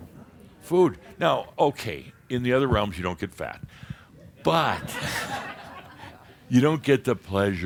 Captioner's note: more chuckles